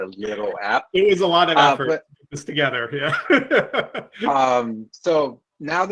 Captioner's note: laughs